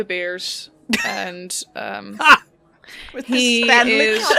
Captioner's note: laughter